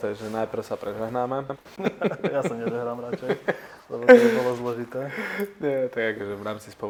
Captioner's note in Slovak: Smiech